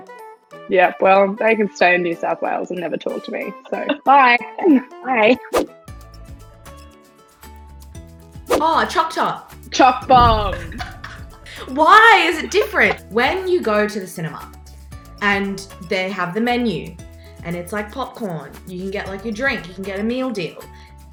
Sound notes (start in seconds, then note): 6.4 upbeat music; 10.6 laughs